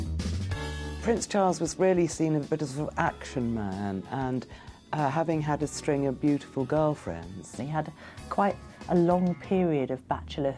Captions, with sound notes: - [Voiceover] Prince Charles was really seen as a bit of an action man, and having had a string of beautiful girlfriends. And he had quite a long period of bachelorhood